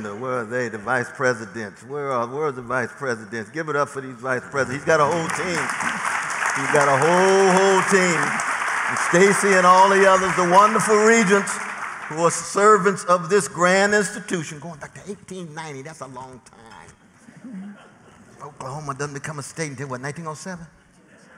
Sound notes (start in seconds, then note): 5.6 applause